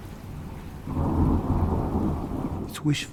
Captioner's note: thunder clashing